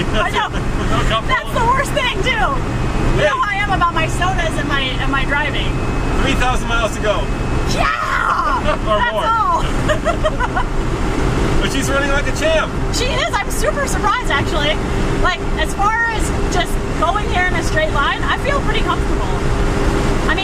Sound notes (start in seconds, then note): 9.9 laughing